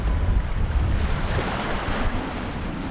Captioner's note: ocean waves